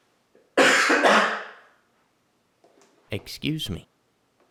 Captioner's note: cough